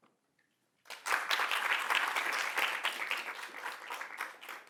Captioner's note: applause